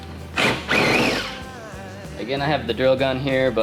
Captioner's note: drill